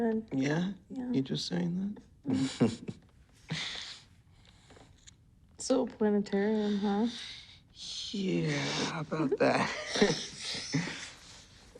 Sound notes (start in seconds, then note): 2.3 chuckles